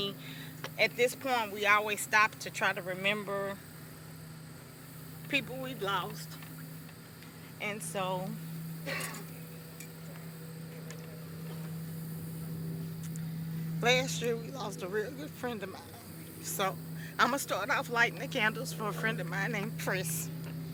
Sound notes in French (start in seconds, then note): 3.0 continue avec une voix tremblante; 13.1 voix tremblante